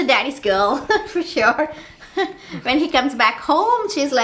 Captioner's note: mom laughing